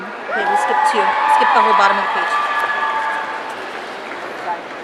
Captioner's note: audience cheering